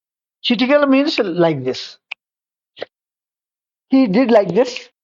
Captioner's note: making sound with two fingers of a hand